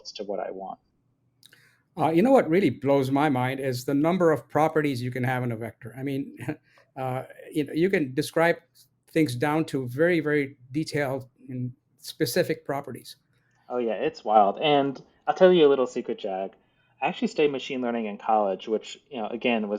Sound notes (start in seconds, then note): 6.6 laughs